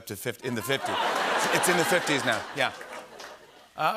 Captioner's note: laughter